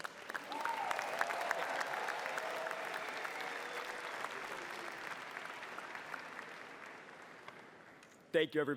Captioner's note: applause